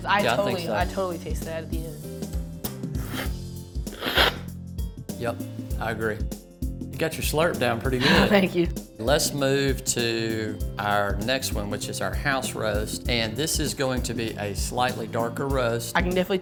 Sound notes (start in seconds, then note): 3.9 slurping; 8.0 chuckling